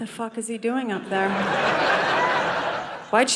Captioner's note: audience laughing